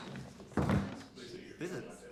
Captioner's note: door closes